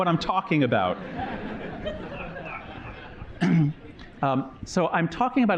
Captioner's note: laughter